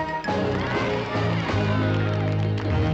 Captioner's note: applause